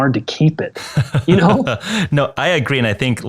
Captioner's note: laughing